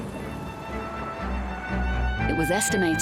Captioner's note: audience applauding